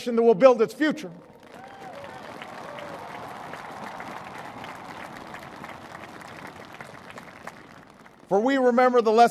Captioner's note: applause